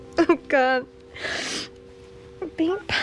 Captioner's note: sniffles